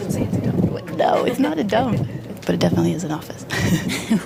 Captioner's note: laughs